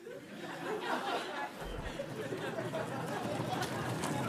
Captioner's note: audience laughing